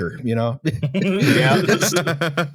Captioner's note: laughter